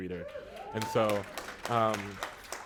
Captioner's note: applause